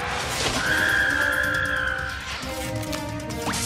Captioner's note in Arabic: صراخ